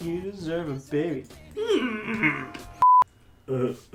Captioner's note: Yoda pondering grunt